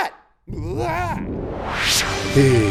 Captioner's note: exclaims